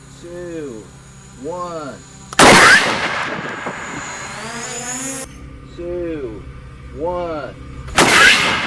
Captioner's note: drone noises